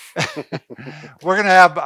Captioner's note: laughs